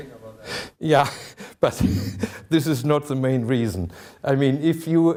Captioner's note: chuckling